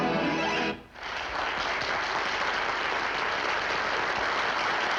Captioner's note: applause